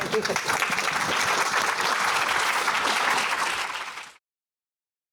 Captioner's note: applause